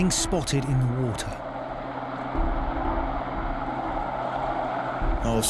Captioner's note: helicopter whirls